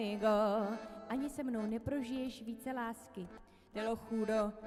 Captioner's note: sings in Spanish; speaks Czech; sings in Spanish